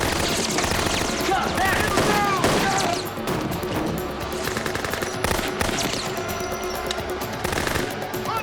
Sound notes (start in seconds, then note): 4.2 gunfire continues